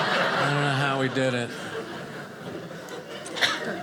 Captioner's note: audience laughing